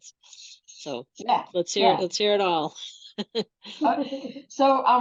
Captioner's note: laughs